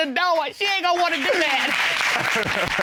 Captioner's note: audience applauds; all laughs